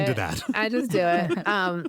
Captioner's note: laughter